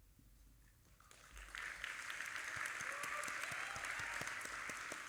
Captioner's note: audience applauding